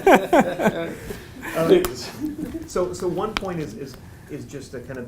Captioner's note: laugh